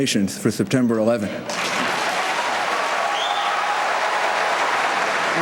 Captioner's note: applause, cheers